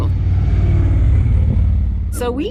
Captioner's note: engine roars